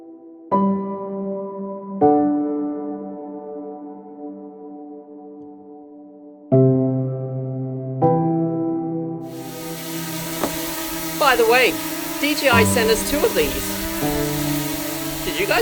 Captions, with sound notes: (drone shrieking) By the way, DJI sent us two of this.